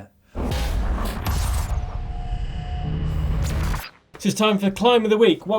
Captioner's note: electronic metallic zapping